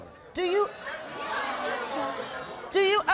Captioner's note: crowd jeering